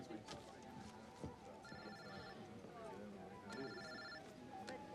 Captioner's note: cell phone rings